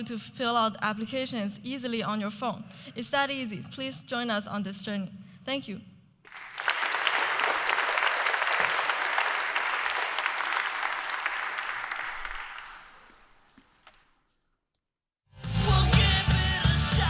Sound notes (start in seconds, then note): 12.3 applause